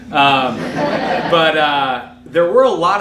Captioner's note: audience laughing